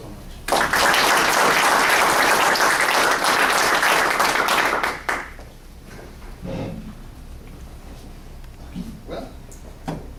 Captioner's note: applause